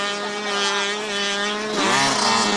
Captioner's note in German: Motorenlärm